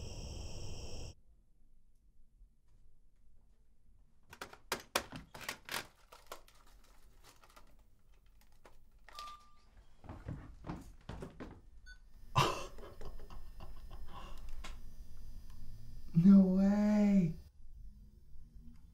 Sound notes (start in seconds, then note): 12.0 scoff